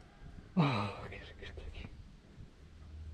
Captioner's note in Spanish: suspiro